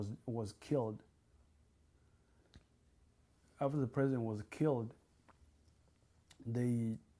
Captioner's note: pauses for 3 seconds